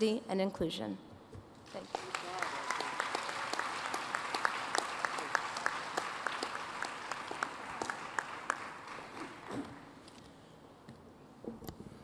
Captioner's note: applause